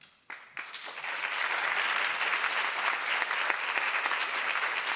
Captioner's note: audience applause